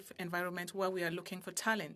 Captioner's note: speaking French